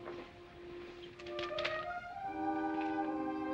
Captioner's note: paper rustling